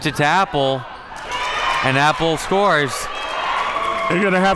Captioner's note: audience cheers